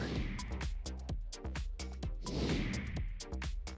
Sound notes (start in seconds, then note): 0.0 whoosh; 0.0 light upbeat music; 2.2 whoosh